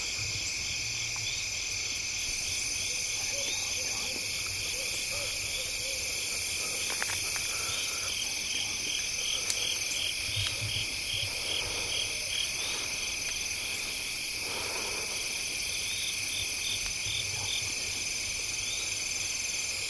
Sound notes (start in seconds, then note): 5.4 crickets chirping, breathing heavy